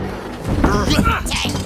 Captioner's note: grunts